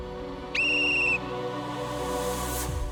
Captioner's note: whistle blares